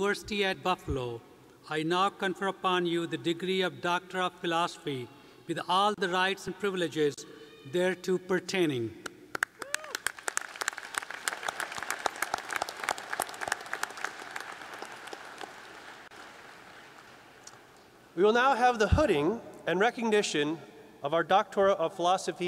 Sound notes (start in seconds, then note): 11.8 applause